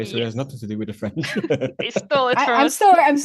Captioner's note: laughs